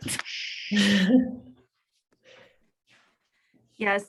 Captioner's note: chuckles